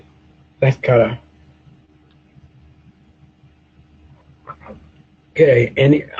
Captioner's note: pause